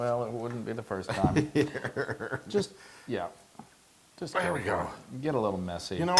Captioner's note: laugh